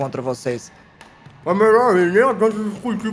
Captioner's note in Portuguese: falando de boca cheia